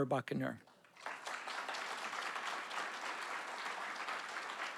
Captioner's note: audience applauding